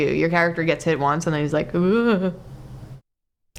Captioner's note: stammer